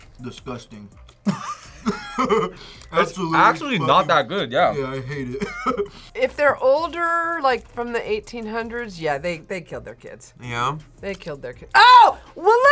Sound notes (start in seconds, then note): 1.2 both laugh; 4.7 laughs